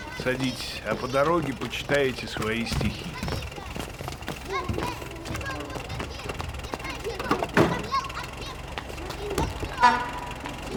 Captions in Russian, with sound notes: Садитесь, а по дороге почитаете свои стихи. (ДЕТСКИЙ КРИК РАЗНОСЧИКА ГАЗЕТ) (ГУДОК)